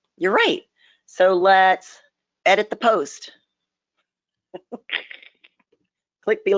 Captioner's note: laughs